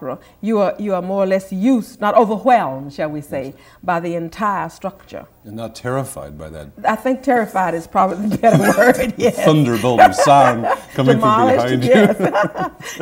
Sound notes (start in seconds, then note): 8.1 laughter; 9.5 chattering